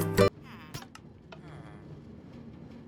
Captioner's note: baby falling honk